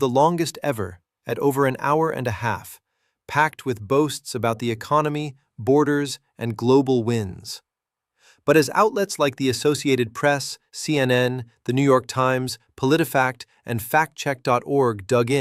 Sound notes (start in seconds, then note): 7.3 sarcastic